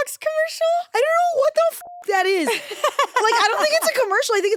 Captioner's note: beep